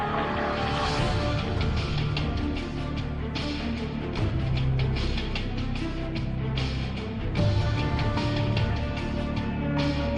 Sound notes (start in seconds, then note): none